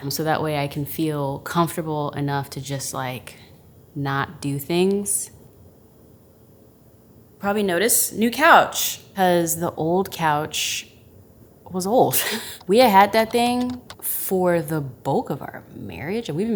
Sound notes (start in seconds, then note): 12.2 chuckles